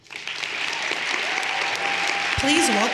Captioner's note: everyone applauding